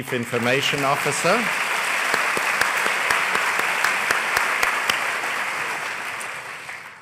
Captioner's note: applause